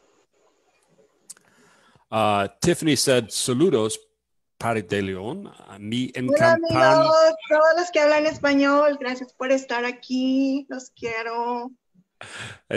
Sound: speaking Spanish

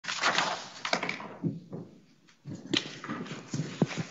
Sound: papers rustling

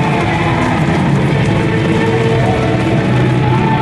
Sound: audience applause

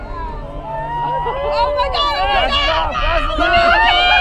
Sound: people exclaiming

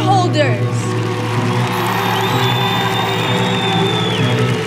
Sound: audience cheering

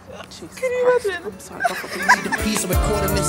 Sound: laughs

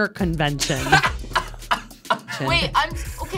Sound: all laughing

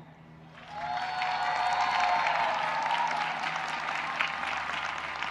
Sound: audience cheering and applauding

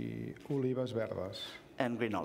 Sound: speaking catalan

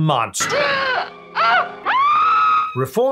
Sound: woman screams

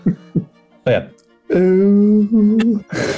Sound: chuckling; posh accent; chuckling

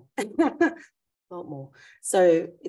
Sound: laughs

